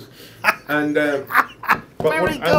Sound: laughs

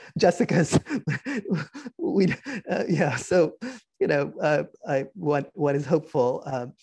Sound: laughing

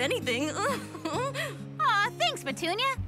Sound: rabbit giggles

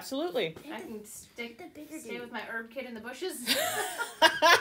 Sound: laughter

